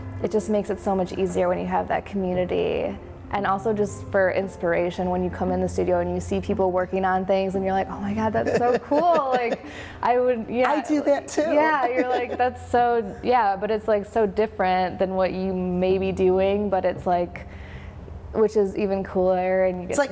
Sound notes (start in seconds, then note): 11.2 laughs; 11.3 woman laughs